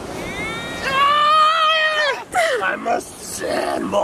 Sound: he screams

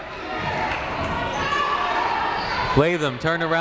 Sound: people shouting in the crowd

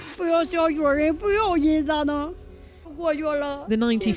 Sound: speaking foreign language

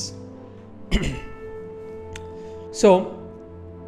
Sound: throat clearing

